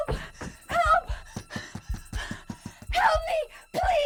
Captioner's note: frantic pounding on door